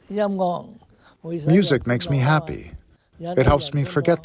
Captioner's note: through translator